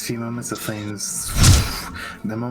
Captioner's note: zooooff